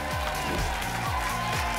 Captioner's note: applause and cheering; whoosh